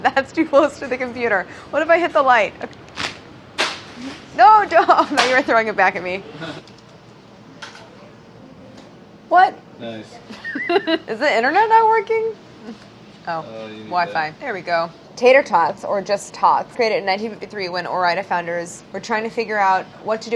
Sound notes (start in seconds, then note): 0.3 laughing; 10.3 laughing